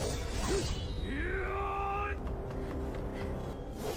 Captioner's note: wail